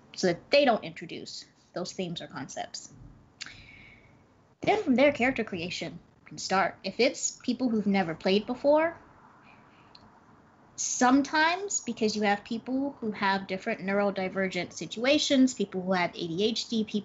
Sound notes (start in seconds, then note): none